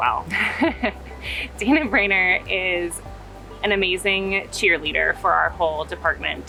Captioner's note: laughing